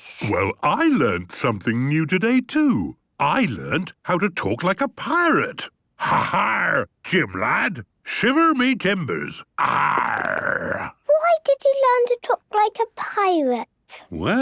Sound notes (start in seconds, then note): 6.1 menacing voice; 9.6 he growls